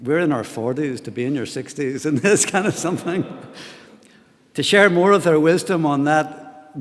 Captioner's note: laughter